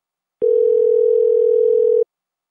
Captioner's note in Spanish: tono de espera